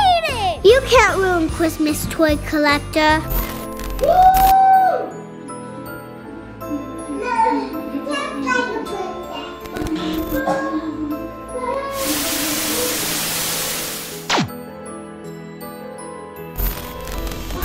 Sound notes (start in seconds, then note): 5.4 bright Christmas music; 8.2 gibbering; 11.9 static fizzing; 14.1 white light zapping